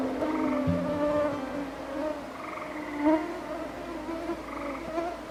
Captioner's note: mosquitoes buzzing